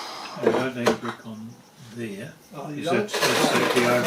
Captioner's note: chatter